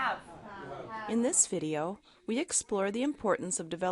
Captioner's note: voiceover